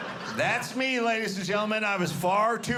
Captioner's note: audience laughing